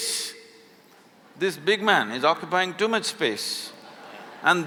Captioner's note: laughter